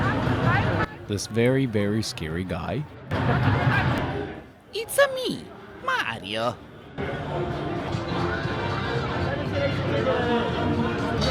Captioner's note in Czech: italský přízvuk